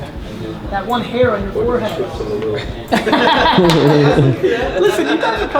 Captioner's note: laughs